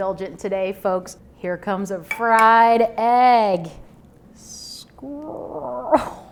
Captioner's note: groans